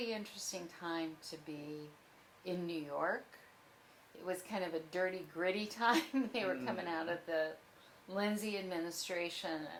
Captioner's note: laughs